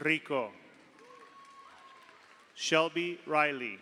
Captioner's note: audience applauds; audience cheers